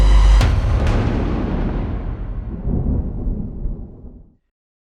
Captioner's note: thunder